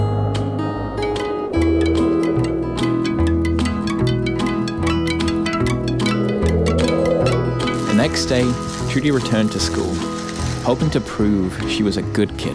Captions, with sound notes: (tinkling raindrops) The next day, Trudy returned to school, hoping to prove she was a good kid.